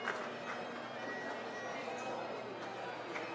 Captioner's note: background chatter